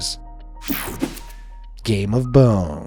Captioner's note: page swishing; page swooshing